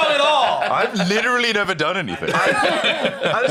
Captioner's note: laughs